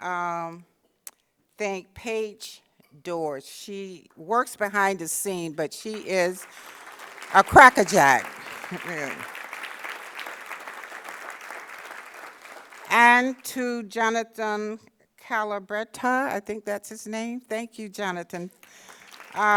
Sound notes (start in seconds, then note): 10.3 applause